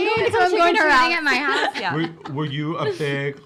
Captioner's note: laughing